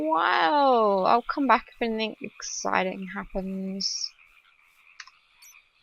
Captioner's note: paper flip